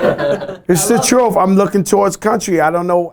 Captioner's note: laughter